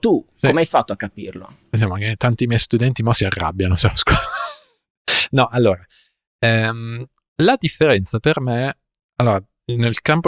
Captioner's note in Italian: risate